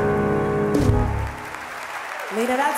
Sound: audience applauding

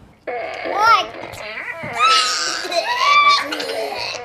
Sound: fart noises

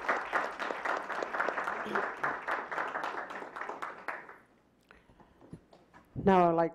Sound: clapping

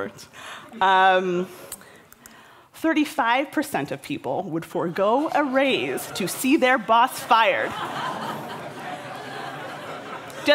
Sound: laughter

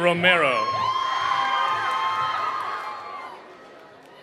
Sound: cheering

